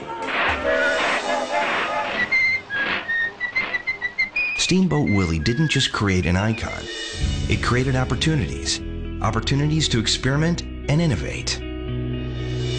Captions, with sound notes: [steam boat whistle] [Mickey Mouse whistling] - Steamboat Willie didn't just create an icon, it created opportunities. Opportunities to experiment and innovate.